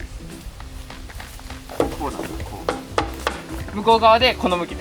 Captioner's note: laughs